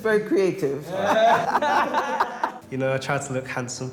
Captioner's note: laughs